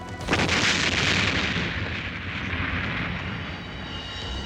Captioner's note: arrow whirring; booming explosion